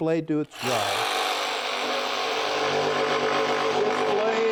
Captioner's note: saw whirring